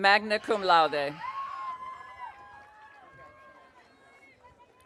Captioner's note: audience cheering